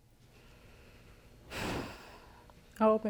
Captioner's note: sighs